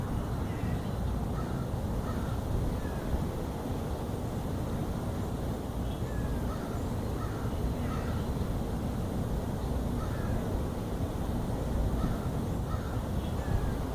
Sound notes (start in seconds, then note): 0.0 distant birds, wind, and waves